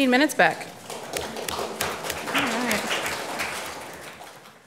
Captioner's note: audience clapping